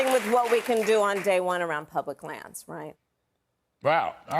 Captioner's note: applause